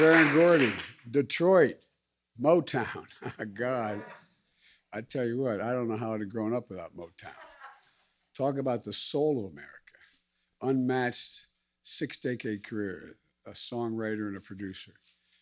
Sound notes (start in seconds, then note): 2.8 laughs